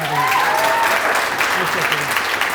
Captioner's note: applause